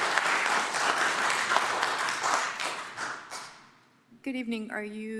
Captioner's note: applause